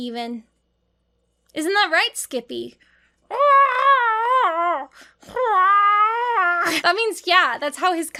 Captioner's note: wailing